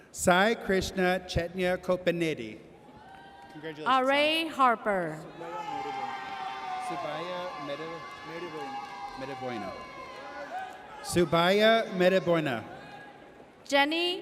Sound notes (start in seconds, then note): 3.1 audience cheers; 5.9 audience cheers